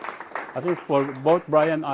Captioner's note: applause